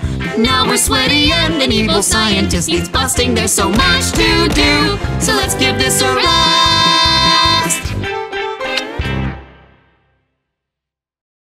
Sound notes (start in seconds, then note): 8.6 smooch